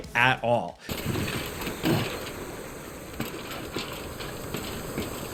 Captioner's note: feet thudding